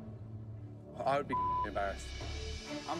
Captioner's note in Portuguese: bip